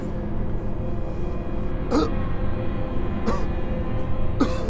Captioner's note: soft intense music; David coughing